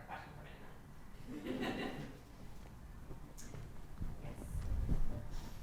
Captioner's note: audience laughs